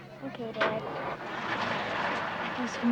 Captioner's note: bus starting